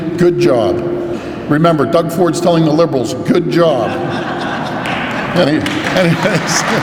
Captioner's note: laughs